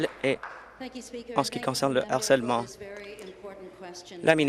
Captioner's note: applause